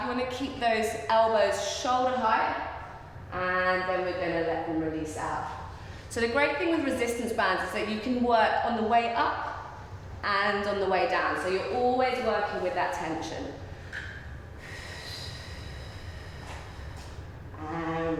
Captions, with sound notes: You wanna keep those elbows shoulder height and then we're gonna let them release out. So, the great thing with resistance bands is that you can work on the way up and on the way down. So, you're always working with that tension. (breathing)